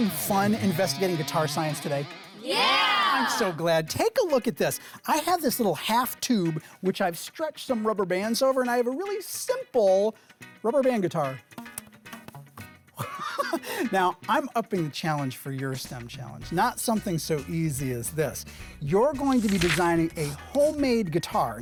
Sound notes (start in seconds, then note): 12.9 laughing